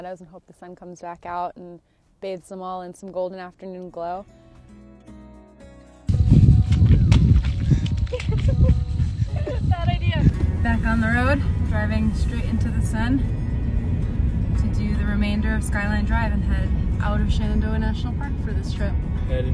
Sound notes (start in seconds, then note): 6.6 water splashing; 7.6 laughing